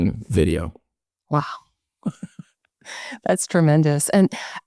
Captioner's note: chuckles